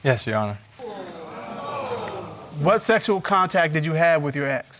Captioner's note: audience exclaiming